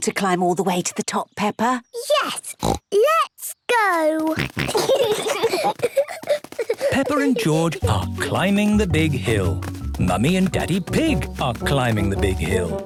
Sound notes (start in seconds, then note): 2.5 snorts; 4.3 snorting, giggling